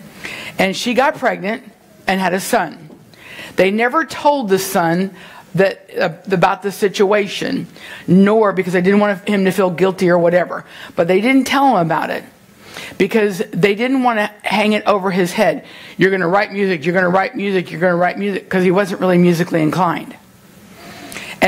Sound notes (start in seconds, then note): none